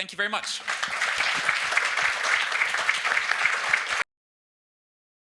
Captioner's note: audience applauding